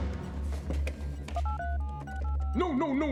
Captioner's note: dialing